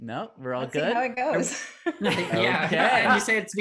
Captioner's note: laughs